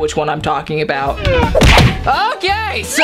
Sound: loud smack

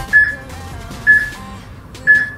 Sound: peep

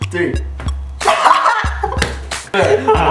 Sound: laughs

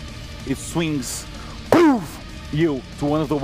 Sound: pow

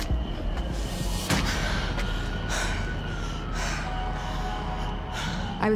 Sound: sirens

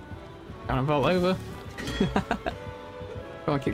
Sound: laughs

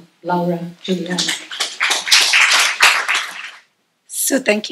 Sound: applause

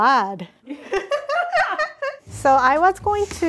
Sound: all laughing

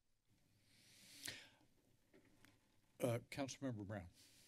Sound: deep breathe

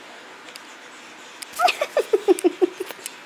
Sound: giggling

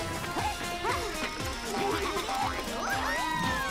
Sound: laughing

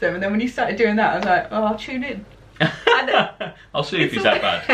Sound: laughter

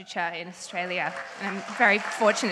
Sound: audience cheering; audience applauds

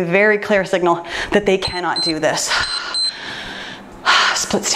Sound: timer beeps

